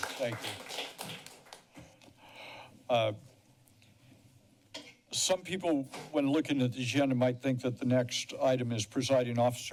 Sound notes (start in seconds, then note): 0.0 applause